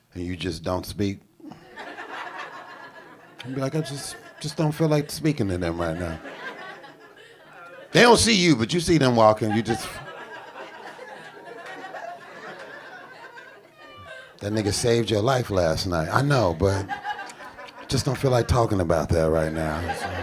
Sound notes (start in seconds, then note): 1.5 audience laughing; 10.6 audience chortling